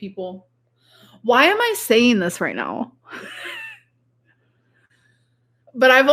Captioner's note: laughs